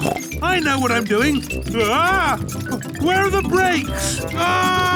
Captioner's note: scream